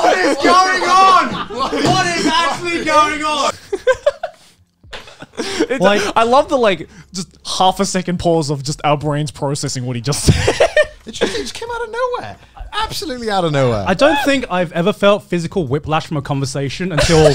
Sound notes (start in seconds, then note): 0.0 laughter; 2.7 laughing